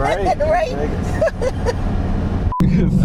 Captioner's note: laughing